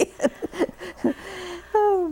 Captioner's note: laughter